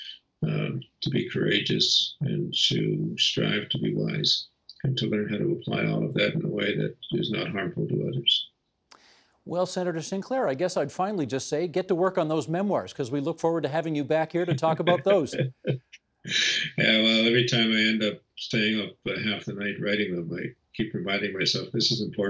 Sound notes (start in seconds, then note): 16.2 chuckling